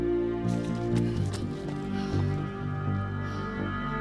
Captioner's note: Nellie pants